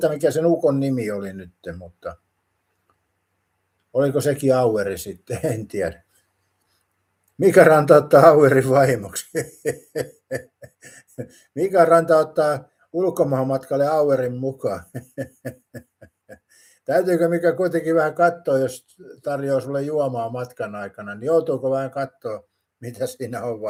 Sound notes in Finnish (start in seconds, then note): 14.6 naurua